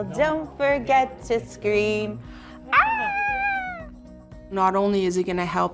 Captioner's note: screams playfully